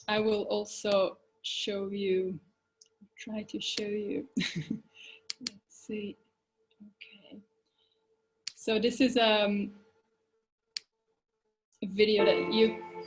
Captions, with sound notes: I will also show you, try to show you, (chuckles) see, okay. So this is video that you,